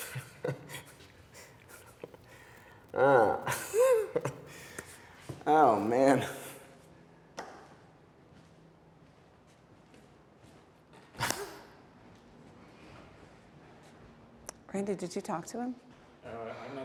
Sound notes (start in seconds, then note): 3.2 chuckling